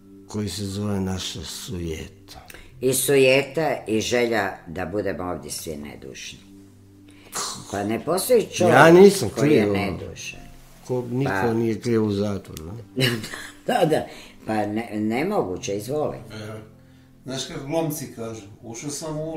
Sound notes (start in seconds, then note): 13.0 laughter